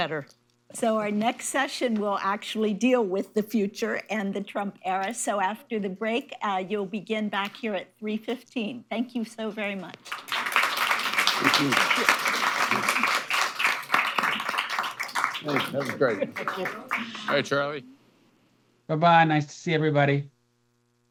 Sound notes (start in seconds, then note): 15.4 applause